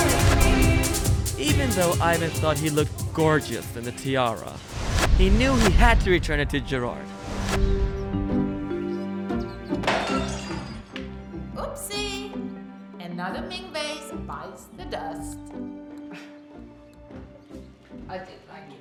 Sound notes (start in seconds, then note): 4.5 whooshing sounds; 6.7 light music; 8.1 crashing sound